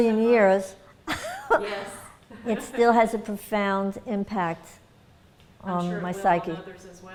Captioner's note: laughter